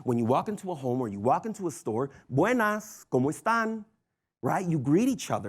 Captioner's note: foreign language